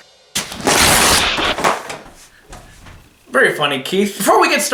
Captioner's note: paper ripping